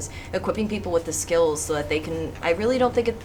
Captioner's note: none